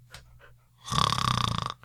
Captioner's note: snores